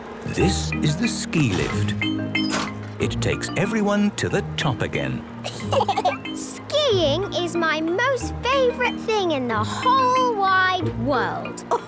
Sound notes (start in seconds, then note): 5.4 laughter